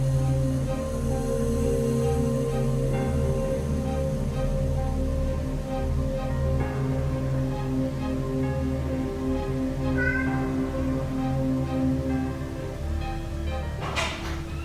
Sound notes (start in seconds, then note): 0.5 eerie music; 10.0 cat meowing